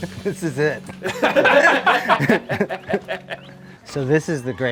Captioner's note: chuckles; all laugh